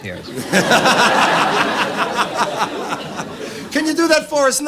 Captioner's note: Laughter from Don and the Audience